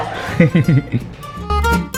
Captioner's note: laughs